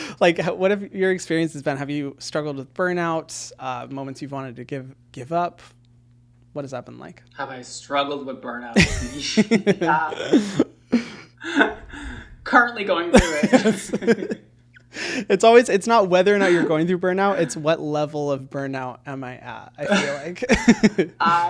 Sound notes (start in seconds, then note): 8.7 laughing; 13.1 laughing